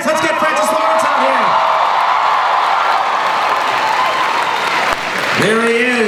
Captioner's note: crowd cheering